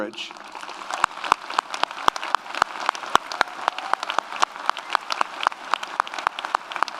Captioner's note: audience applauds; audience cheers